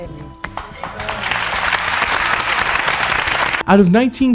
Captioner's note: audience applause